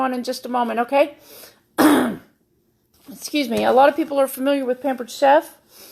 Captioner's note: clears throat